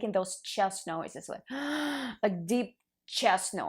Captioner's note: loudly breathing in